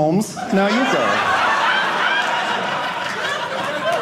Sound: audience laughing

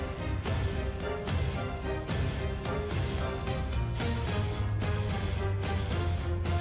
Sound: none

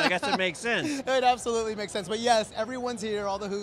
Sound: laughs

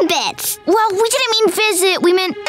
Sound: none

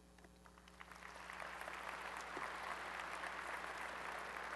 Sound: applause

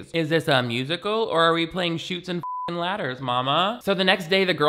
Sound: beep

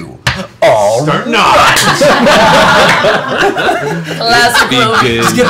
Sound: laughter

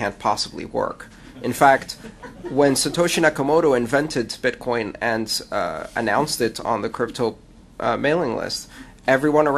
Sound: laughter

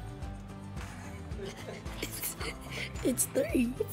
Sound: interviewer and child chuckling

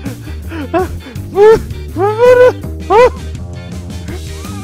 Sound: stammers in a panic

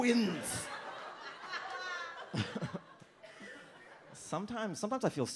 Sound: audience laughs

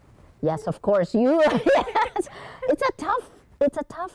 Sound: laughs

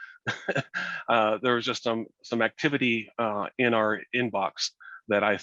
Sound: laughs

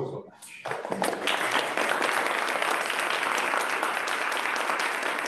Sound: applause

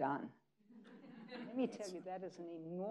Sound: people laughing

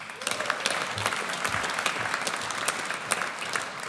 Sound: audience applauds

